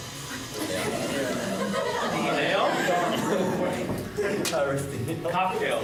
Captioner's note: laughter